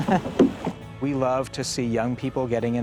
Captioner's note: man chuckling